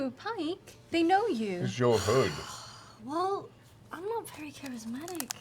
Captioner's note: sighs